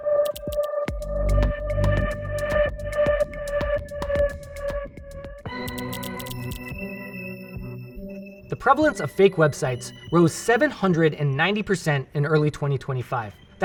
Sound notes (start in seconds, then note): 0.1 dramatic music; 5.5 intense music; 5.5 graphics clacking